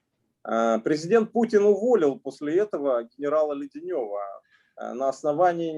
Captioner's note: speaking Russian language